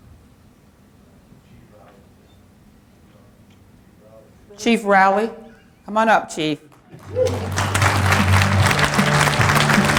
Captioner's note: applause